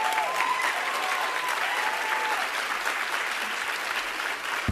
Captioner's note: applause